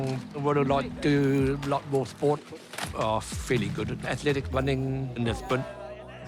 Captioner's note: laughs